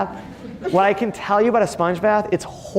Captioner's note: audience laughing